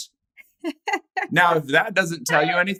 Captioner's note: laughs